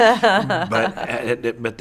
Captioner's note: laughing